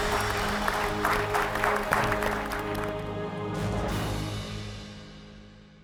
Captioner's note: applause